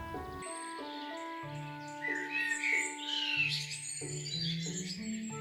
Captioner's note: birds chirp